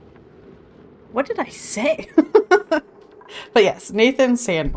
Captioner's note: laughs